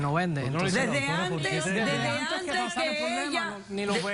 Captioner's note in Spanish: Hablan al unísono